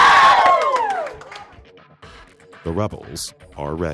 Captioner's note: students cheer